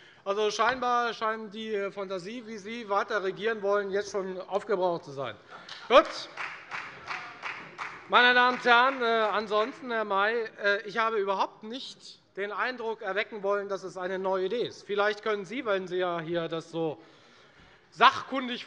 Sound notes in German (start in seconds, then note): 5.6 Beifall bei der FDP - Lachen bei dem BÜNDNIS 90/DIE GRÜNEN